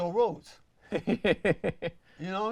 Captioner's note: laughs